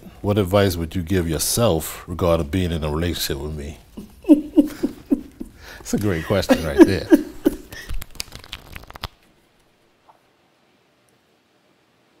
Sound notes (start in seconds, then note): 3.9 chuckles; 7.4 cards shuffling